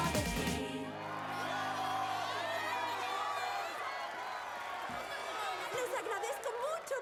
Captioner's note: wild cheering